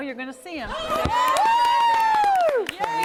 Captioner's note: cheering